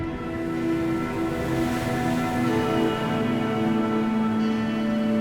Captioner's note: waves crashing